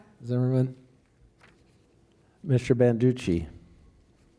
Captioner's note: none